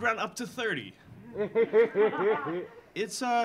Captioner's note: audience laughing